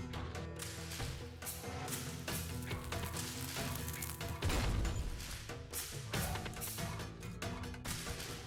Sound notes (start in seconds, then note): 1.8 fuse ignition; 4.3 explosion